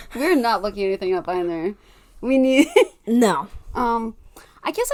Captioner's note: laughing